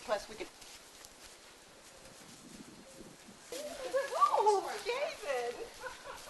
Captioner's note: footsteps; giggling, Jenna squeals